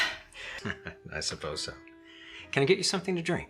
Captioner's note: chuckles